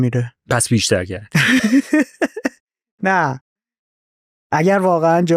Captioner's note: laughs